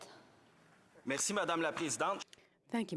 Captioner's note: speaking French